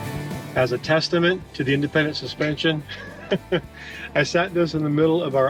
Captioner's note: laughs